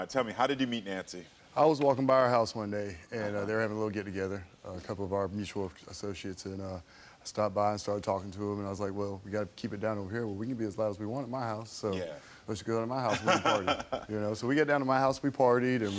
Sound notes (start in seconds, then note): 13.1 Karamo laughs